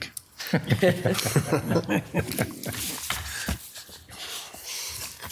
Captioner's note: commissioners laughing